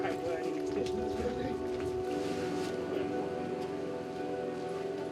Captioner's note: chattering continues